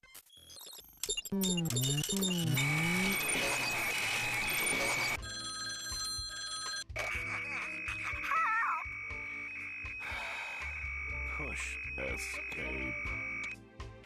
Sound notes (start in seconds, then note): 1.4 modem squealing; 5.3 ringing; 7.0 Porky stammering; 10.0 sighing